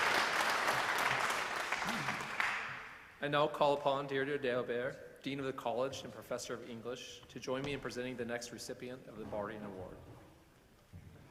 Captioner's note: applause